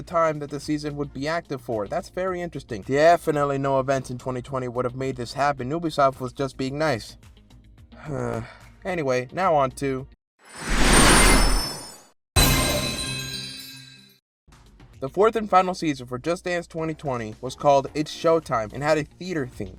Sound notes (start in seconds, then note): 8.0 sigh